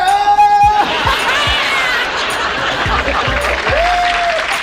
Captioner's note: audience laughs